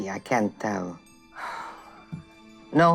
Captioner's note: deep sigh